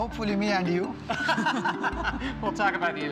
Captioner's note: laughing